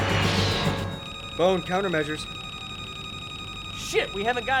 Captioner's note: aircraft whooshes; missile whooshes; radio beeping